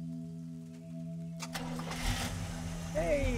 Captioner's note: engine starts